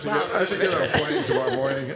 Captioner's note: laughter